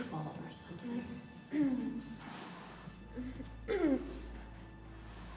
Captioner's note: billie groans